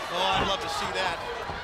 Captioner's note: crowd chatter